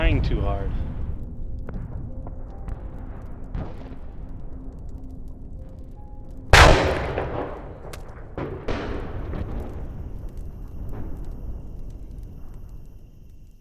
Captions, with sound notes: You're trying to hard. (gun shot) (splat)